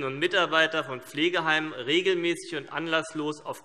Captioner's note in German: none